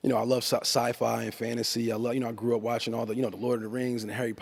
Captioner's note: none